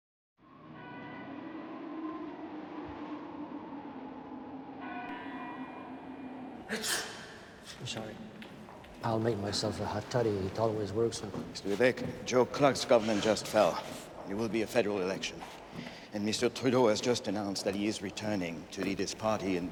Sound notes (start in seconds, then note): 1.9 wind hissing; 6.6 person sneezing